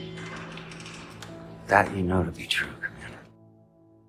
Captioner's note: voiceover